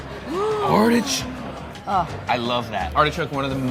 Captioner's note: gasps